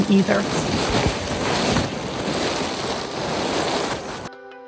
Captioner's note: crinkling sound